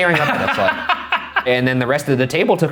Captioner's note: laughing